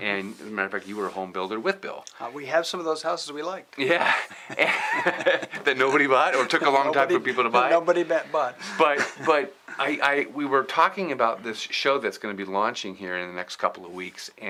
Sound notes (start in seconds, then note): 3.8 laughs